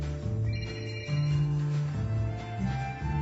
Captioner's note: phone Ringing